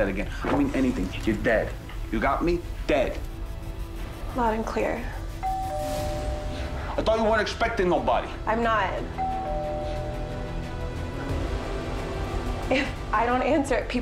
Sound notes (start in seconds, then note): 5.5 doorbell rings; 9.1 doorbell rings